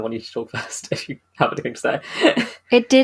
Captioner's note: laughs